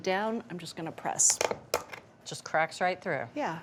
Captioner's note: bone crunches